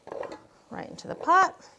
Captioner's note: potatoes clanging